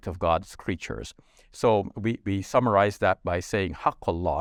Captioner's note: speaks Arabic